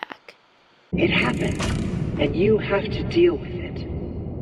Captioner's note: M1, using Fiona's voice